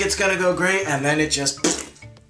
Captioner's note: makes splat sound